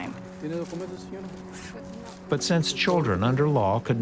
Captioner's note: in Spanish